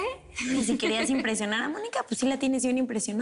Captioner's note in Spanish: Risas